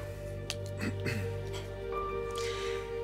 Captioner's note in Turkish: Hakan boğazını temizledi